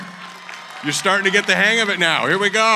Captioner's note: applause